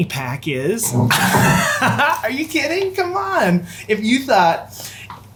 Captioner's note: laughs